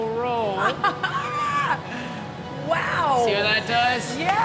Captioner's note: laughing